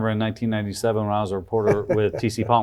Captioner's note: laughs